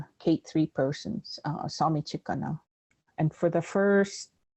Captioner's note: Speaking Blackfoot